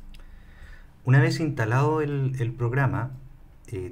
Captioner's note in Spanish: Español